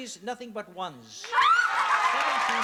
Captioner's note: cheering